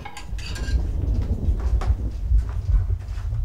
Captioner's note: rumble of thunder outside